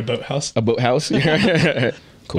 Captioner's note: both laughing